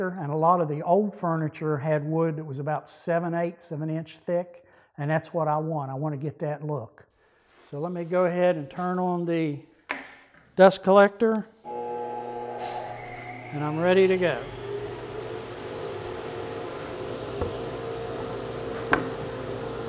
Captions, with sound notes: and a lot of the old furniture had wood that was about seven, eight, seven inch thick. And that's what I want. I want to get that look. So let me go ahead and turn on the dust collector. I'm ready to go. (dust collector engine running)